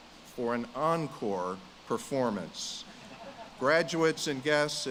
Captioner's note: audience laughs